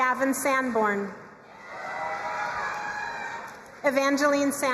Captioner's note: crowd cheering and applauding